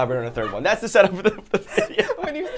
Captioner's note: laughter; laughs